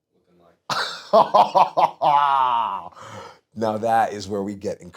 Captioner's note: laugh